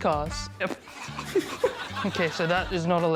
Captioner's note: chortles